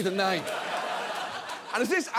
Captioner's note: audience laughs